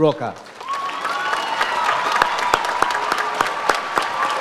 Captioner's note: audience applauds